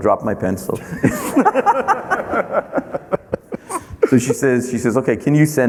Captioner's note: everyone laughing